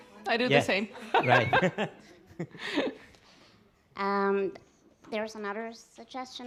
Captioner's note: laughs